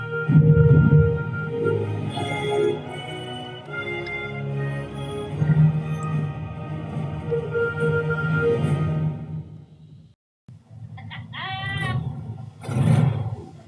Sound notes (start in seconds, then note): 12.6 engine revving